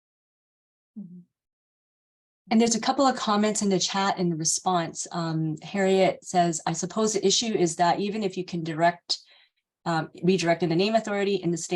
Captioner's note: sarcasm